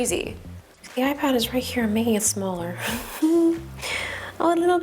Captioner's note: laughs